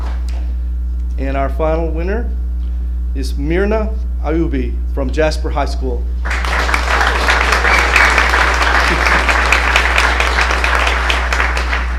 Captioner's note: applause